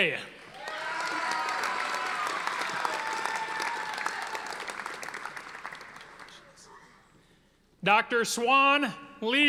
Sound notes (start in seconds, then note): 0.4 audience applauding